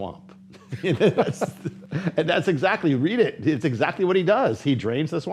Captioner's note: laughter